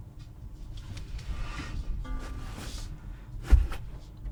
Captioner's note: canister thunking